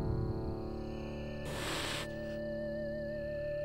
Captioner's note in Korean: 하앜